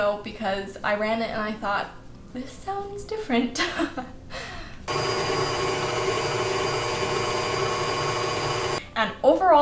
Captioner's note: mixer noise